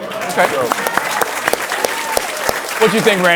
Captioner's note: cheers and applause